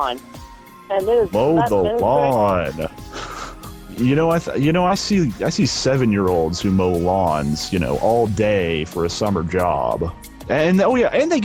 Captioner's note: laughter